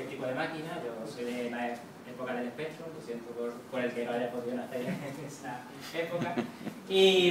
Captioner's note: laugh